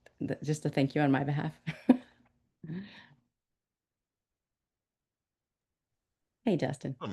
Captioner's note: woman laughs